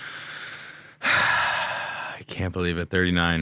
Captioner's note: sighing